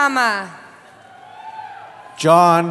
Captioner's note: cheering